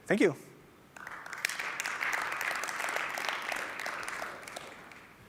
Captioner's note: applause